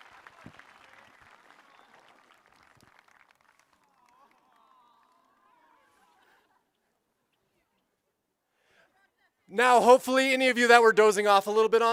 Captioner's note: applause